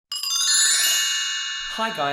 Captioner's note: chiming